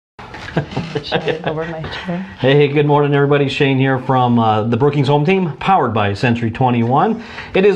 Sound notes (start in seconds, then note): 0.3 laughs